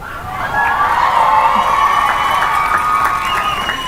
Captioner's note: cheering and applause